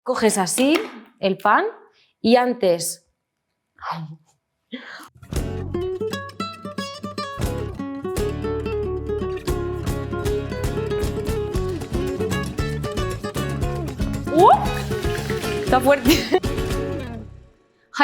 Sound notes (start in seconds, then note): 0.0 speaks in Spanish; 5.4 jaunty Latin music; 14.3 shrieks; 15.9 speaks in Spanish